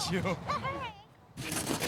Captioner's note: giggles